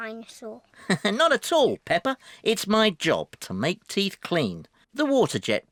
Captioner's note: laughs